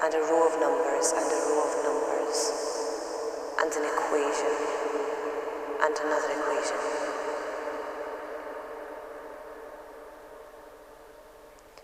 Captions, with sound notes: and a row of numbers and a row of numbers and an equation and another equation [ VOICE FADES & ECHOES ]